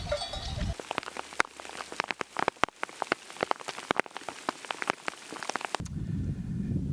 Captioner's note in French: pluie